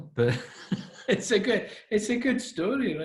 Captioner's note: laughing